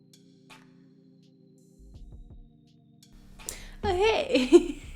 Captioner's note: laughter